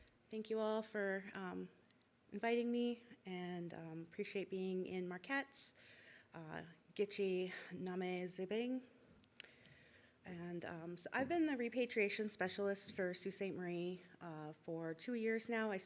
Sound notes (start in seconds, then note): 5.9 foreign language